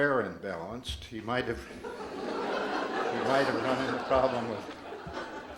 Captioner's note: audience laughs